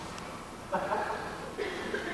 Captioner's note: Kayama laughs lightly